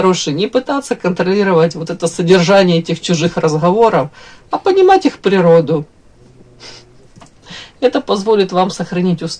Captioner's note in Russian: фыркает